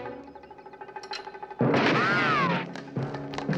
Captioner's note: gun firing